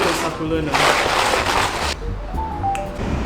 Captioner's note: clattering intensifies